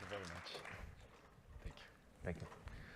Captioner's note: applause